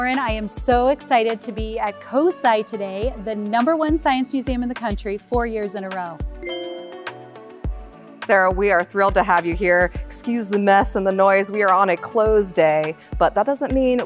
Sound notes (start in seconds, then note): 6.4 ding